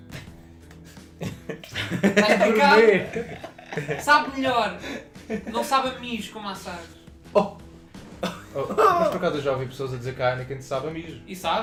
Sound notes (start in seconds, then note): 0.8 laughs; 0.8 laughs in Portugues